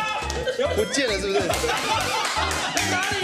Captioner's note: Laughters